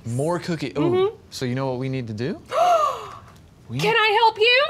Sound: gasps

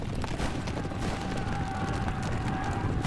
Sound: all shouting

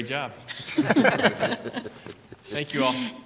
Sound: group laughs

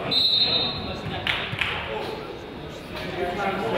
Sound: whistle blows

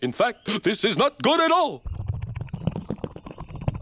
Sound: burbling

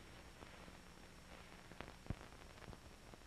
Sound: none

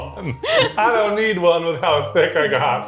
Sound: laughing

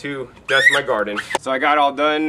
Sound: squeaking noises

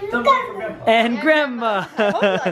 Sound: laughing

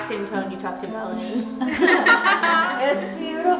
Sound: laughing

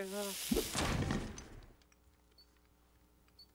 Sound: thudding

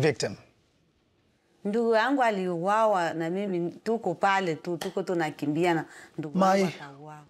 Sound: speaking in foreign language

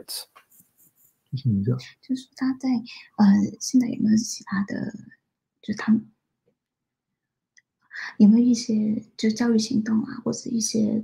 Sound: speaks mandarin

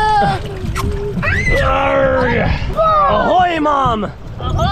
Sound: screams; grunts

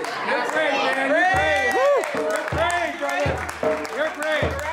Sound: counselor clapping

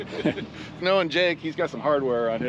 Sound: chuckling

